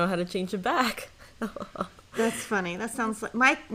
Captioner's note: laughing